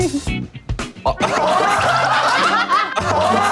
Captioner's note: Ledakan tawa